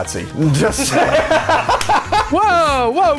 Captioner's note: laughs